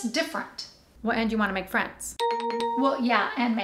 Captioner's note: ding ding, ding